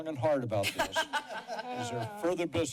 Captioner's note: laughter